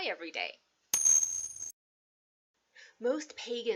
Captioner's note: bell rings